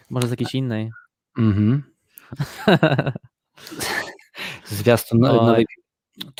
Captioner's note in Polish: śmiech